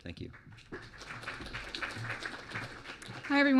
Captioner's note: clapping